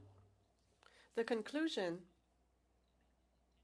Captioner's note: speaking French